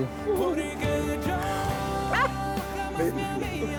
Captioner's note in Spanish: Risas